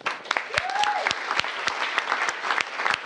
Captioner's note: applause